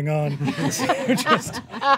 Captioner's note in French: rires